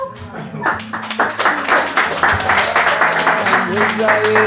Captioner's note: applause